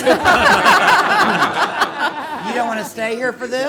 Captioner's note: everyone laughs